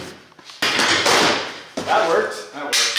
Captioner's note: loud ripping